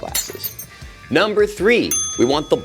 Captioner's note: glass shatters